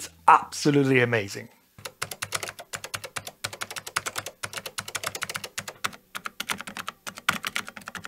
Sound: typing

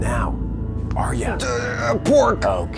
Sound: groaning

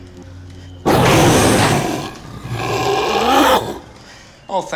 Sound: zombie roar

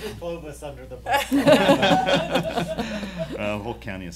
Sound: laughing

